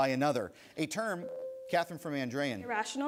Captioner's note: bell rings